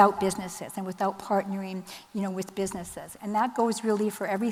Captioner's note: none